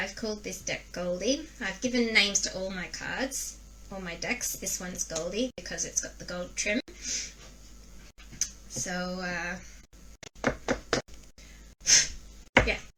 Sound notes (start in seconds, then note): 5.4 knock, Knock, Knock, blow